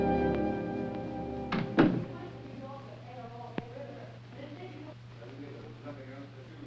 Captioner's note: door Closes; Margaret Shouting, Indistinct